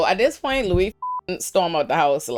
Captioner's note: beep